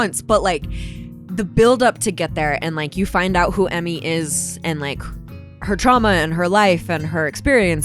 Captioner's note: none